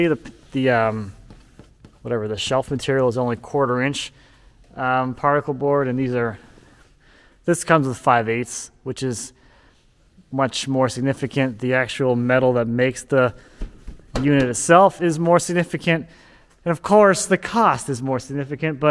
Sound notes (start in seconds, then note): none